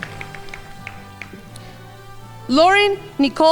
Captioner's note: crowd applauding